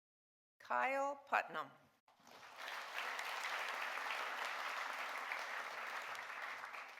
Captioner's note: audience applauding